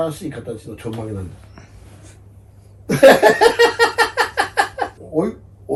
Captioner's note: laughs